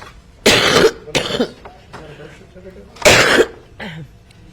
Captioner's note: coughing; coughing; clears throat